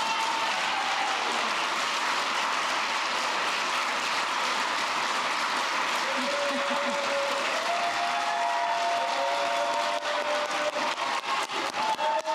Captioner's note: applause